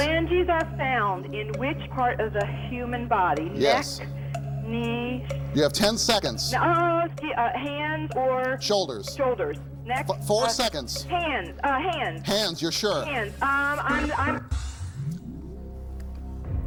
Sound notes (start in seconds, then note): 13.9 buzzer sounds